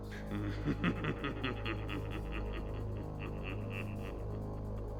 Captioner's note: X Knight laughing